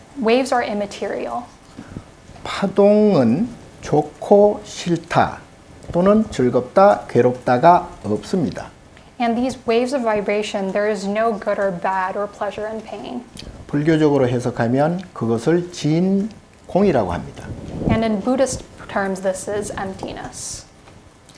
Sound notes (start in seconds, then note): 2.2 speaking Korean; 14.0 speaking Korean; 21.1 speaking Korean